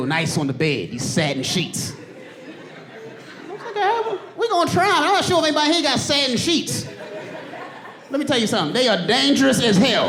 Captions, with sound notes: "Why can't I have them? "We're gonna try." I am not sure if anybody here got satin sheets. Let me tell you something. They are dangerous as hell. [AUDIENCE LAUGHING]